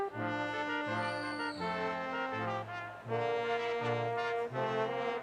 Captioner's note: audience member whistles